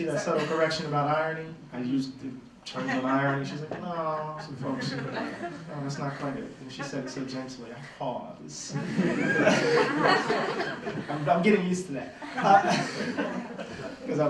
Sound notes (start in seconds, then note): 8.6 laughter